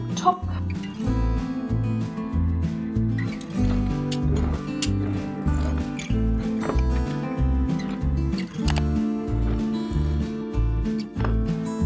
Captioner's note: sound of sewing machine